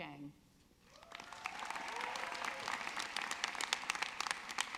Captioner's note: audience clapping